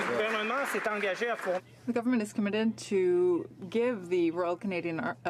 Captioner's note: some Applause